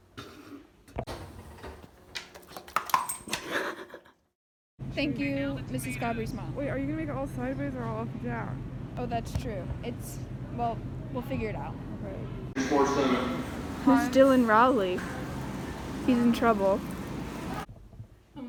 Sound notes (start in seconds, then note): 3.4 laughs